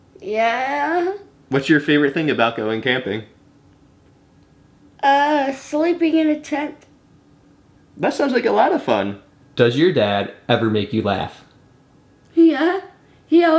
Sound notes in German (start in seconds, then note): none